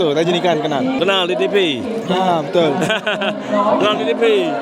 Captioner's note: laugh